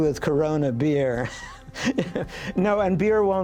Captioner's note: laughing